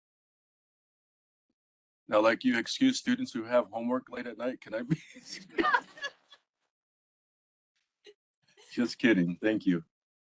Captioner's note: laughing